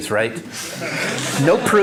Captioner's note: laughter